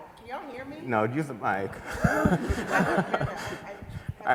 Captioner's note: laughter